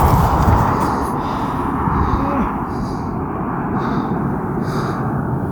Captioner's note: sand rustling; heavily breathing